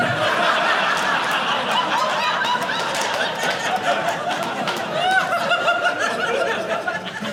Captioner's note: audience laughing